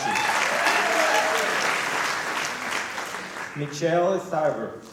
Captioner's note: applause